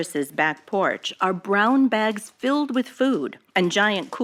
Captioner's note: archival news audio